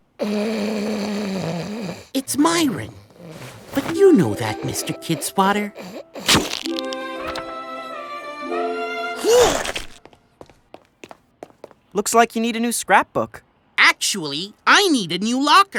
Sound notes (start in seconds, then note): 5.0 camera clicks; 9.2 grunt of effort